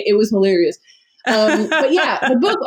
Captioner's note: laughs